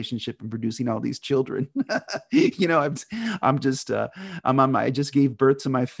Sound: laughs

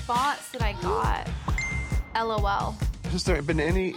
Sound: message chimes

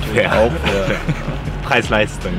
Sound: laughter

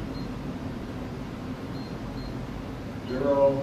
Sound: power level beeps

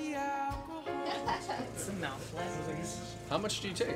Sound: woman laughs

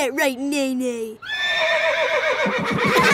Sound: horse neighing; laughing

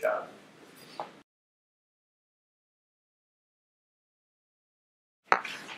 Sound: silence

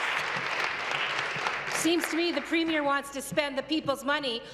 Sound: applause

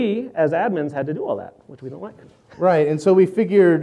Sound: laughs

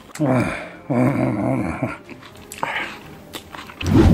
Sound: sigh

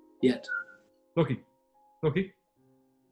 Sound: whistles

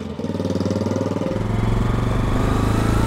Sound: engine roars

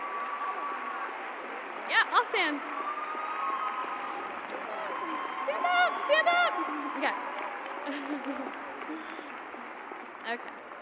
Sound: cheers and applause

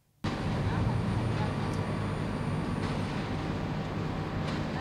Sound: background chatter

